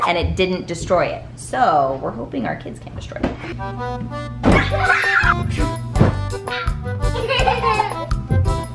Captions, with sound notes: and it didn't destroy it so we're hoping our kids can't destroy it. (laughing)